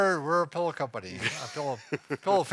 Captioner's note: laughs